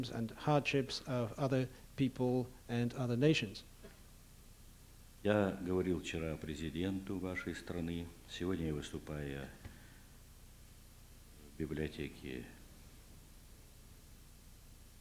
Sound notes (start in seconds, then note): 6.6 non-english speech